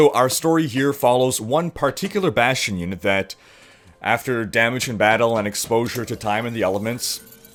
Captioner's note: Bastion's computer powering up and beeping